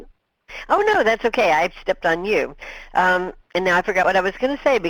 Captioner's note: voiceover